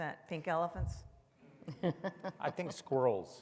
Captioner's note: all chuckles softly